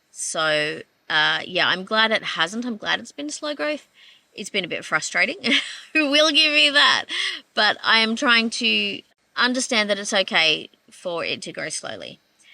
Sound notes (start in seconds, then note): 5.4 laughing